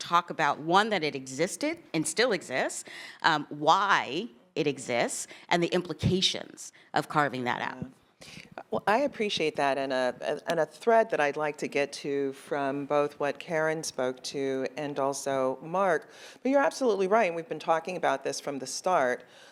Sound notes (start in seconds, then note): none